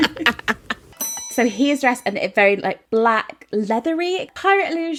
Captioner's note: laughing